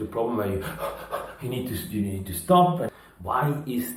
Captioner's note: gasping